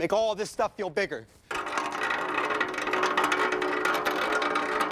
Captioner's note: metal clattering